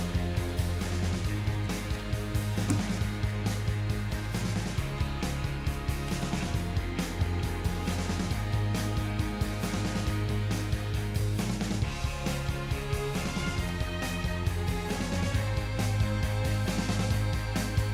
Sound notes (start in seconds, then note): none